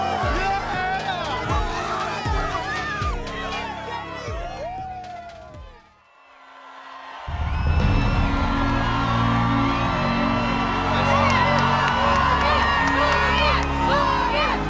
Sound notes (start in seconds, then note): 7.3 crowd cheering; 7.4 regal orchestral music